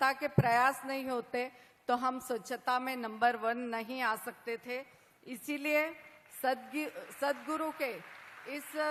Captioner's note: applause